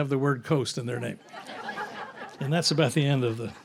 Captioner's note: audience laughs